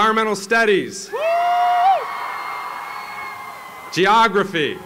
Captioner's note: applause